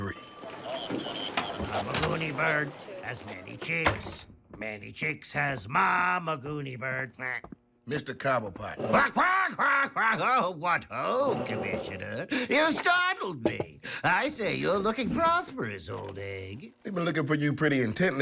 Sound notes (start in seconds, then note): 0.1 radio chatter, door opens; 3.4 door closes; 8.8 startled squawking